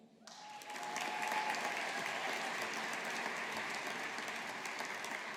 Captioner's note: audience applauding